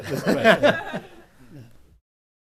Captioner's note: audience laughs